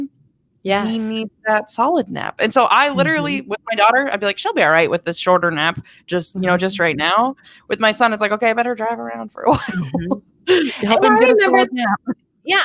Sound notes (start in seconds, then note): 10.5 chuckles